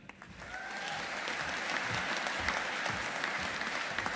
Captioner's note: audience applauding